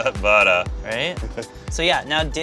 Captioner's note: laughter